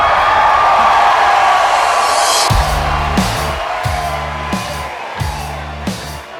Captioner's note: applause